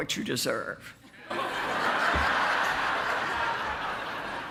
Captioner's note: audience laughs